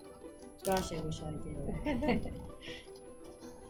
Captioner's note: laughs